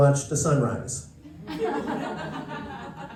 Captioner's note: laughter